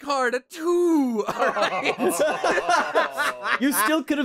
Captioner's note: laughter